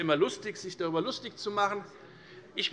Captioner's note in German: none